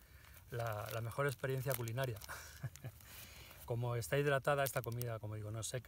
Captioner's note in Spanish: risas